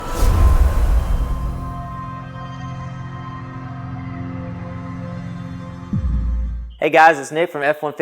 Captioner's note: sound effect